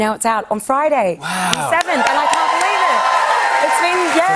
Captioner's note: cheers and applause